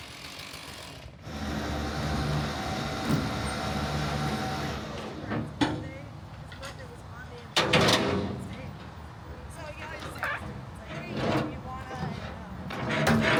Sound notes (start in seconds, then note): 1.2 crane whirring